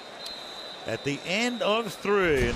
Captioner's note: whistles